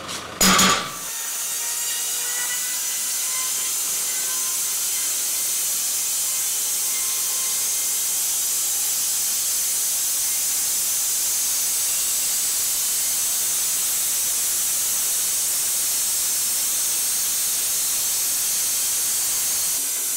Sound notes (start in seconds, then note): 1.4 machine sawing; 17.3 machine sawing